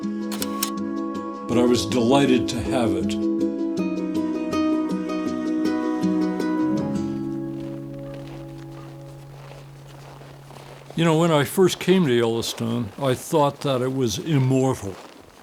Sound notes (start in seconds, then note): 0.3 slide clicks; 4.5 crow caws; 4.5 gentle lively music; 9.3 snow crunching